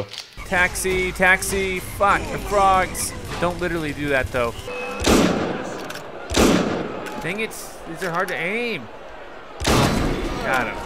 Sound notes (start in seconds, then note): 4.6 gunshots; 9.6 gunshot